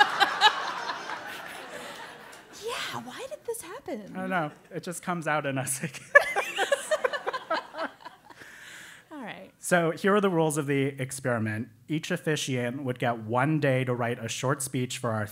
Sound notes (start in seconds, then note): 0.0 laugh; 6.0 laugh